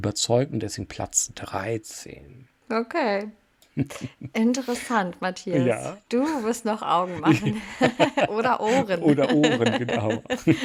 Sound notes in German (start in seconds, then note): 7.1 gelächter